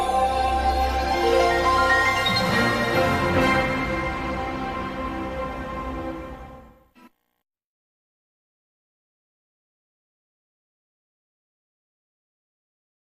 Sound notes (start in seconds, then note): 7.6 silence